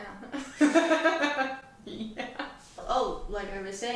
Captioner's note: laughing